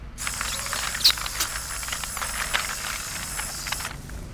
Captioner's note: blowing, gurgling sounds